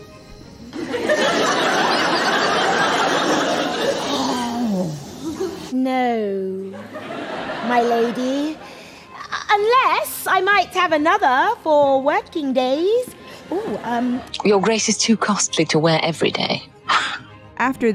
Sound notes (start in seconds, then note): 1.0 Beatrice laughs; 2.5 audience laughter